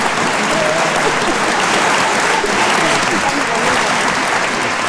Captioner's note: audience applauding; giggles